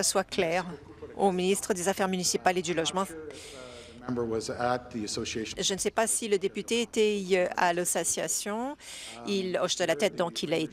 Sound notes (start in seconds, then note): 4.1 speaking in French